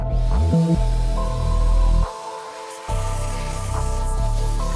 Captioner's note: compressed air whispering